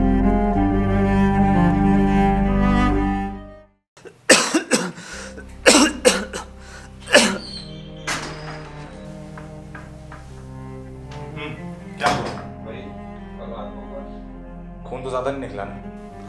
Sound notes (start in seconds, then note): 4.0 coughs